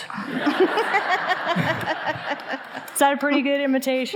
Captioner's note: all laughing